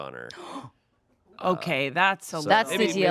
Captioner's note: gasps